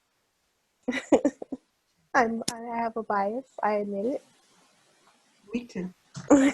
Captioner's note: laughs